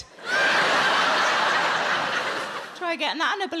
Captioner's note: audience laughing